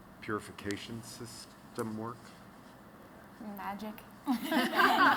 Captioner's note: laughter